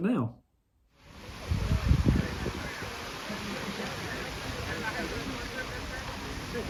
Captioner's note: water fountain